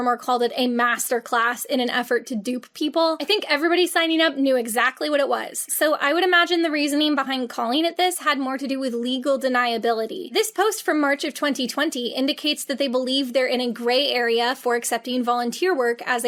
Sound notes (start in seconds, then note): none